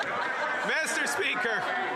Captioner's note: laughter; some Applause